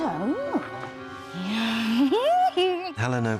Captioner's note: bellatrix laughs